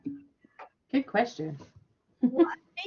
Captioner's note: laughter